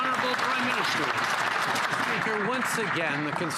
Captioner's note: some Applause